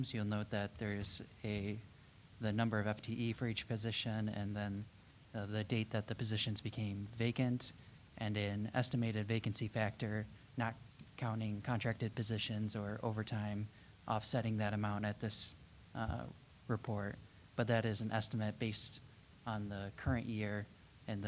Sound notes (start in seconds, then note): none